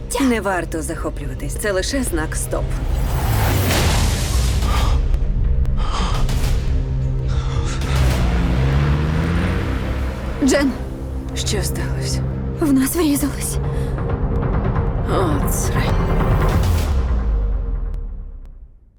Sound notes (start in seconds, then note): 2.9 loud crash; 4.7 panting; 6.2 tense music playing